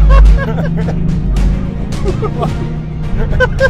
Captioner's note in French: Rire